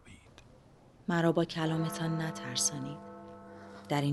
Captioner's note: clock bell